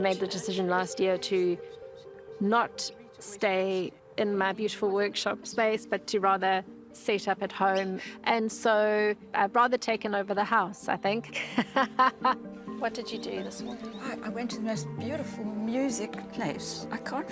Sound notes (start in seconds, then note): 11.4 laughs